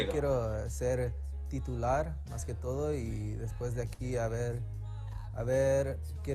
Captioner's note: athlete speaking in Spanish